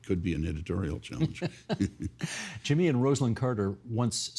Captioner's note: laughing